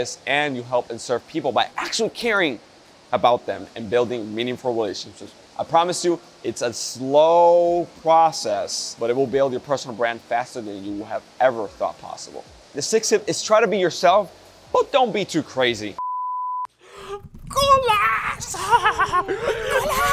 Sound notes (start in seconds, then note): 16.7 crying